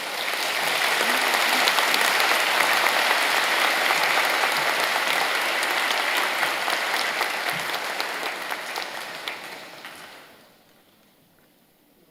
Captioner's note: applause